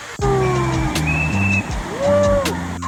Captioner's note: guard whistling